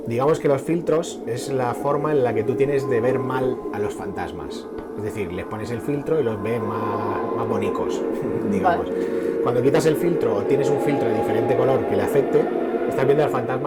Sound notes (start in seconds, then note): 8.8 chuckles